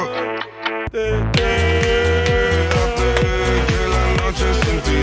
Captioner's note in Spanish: canturrea